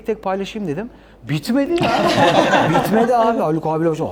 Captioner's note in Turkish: kahkaha